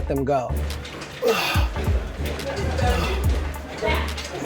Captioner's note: heavy breathing